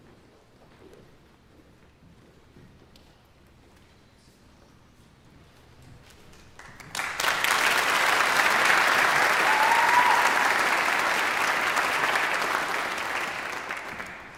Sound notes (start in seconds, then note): 6.5 audience applauding; 9.7 audience cheering